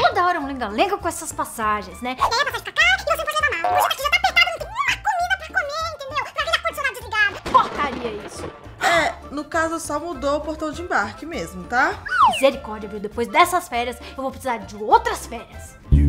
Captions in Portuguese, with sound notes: Toda hora uma lenga-lenga com essas passagens (falando muito rápido) Uma PORCARIA isso!!! É, no caso, só mudou o portão de embarque mesmo, tá!? Misericórdia!!! Depois destas férias eu vou precisar De outras férias!!!